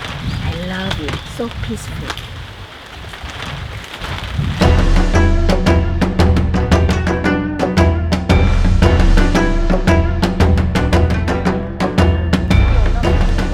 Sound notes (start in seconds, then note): 3.3 rain splattering; 4.6 lively Asian music